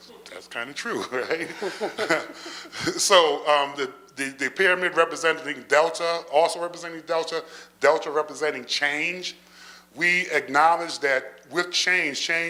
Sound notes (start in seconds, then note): 1.1 laughter